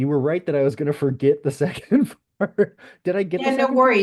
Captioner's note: laughs